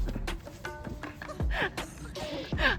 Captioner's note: hehe